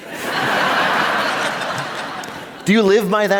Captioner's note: laughter